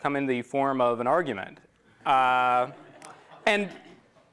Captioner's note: laughter